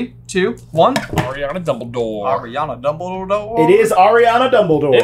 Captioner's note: sing song